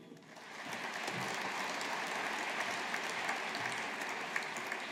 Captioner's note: audience applauding